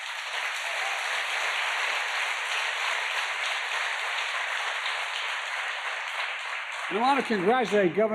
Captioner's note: applause